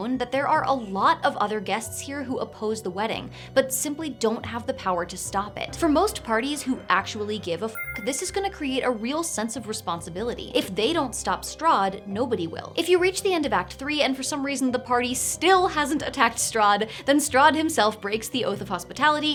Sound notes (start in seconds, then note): 7.7 chime sound